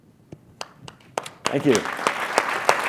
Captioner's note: applause